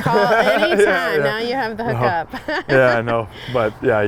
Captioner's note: laughs